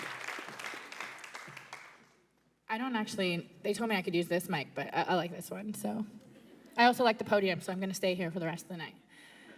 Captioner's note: applause